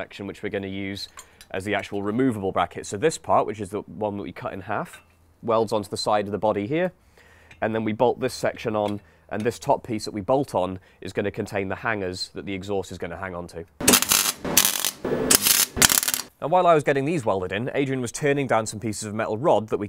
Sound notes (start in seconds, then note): 13.8 welding